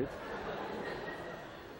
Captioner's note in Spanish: estudiantes se ríen